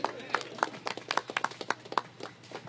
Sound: applause

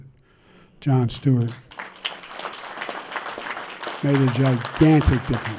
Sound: applause

